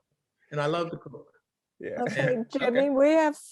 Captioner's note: laughing